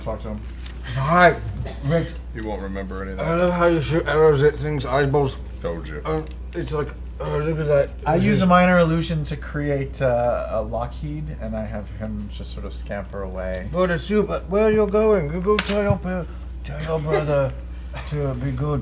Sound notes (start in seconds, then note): 3.7 slurred